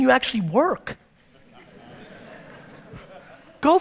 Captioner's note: audience laughter